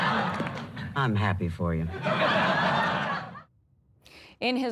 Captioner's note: laughter